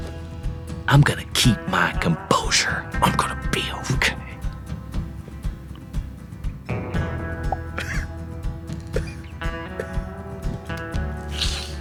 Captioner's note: weeps